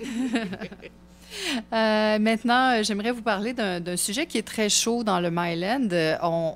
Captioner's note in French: rires